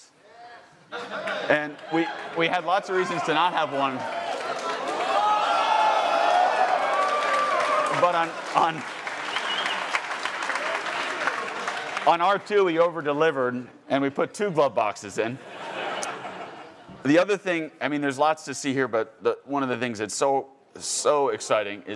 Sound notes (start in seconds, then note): 0.8 attendees laughing; 4.0 attendees cheering and applauding; 15.3 attendees laughing